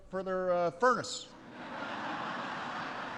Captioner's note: laughter